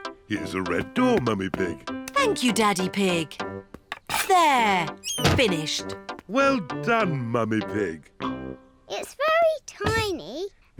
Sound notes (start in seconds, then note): none